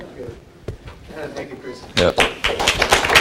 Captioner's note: applause